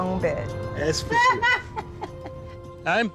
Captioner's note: laughs